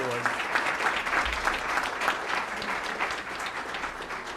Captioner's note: applause